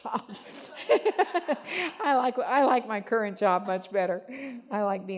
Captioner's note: laughing